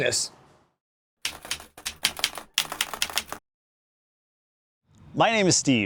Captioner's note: keyboard keys clicking